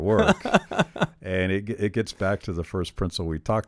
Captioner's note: chuckles